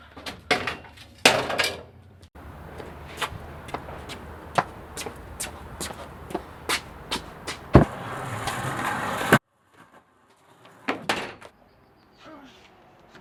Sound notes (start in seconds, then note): 2.3 footsteps; 7.7 wheels rolling